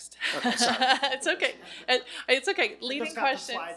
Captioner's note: crowd laughing